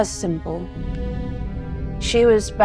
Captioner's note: participant sighing